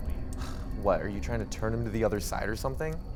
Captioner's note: scoffs